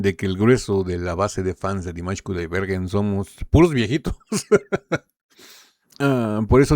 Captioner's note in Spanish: risas